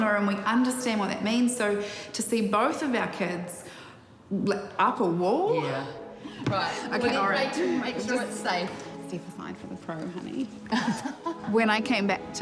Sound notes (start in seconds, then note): 10.6 laughs